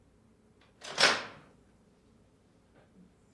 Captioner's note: door opens